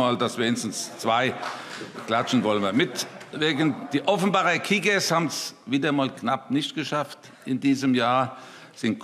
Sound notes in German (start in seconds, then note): 1.4 Beifall